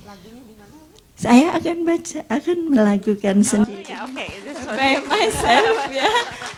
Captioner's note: speaks Indonesian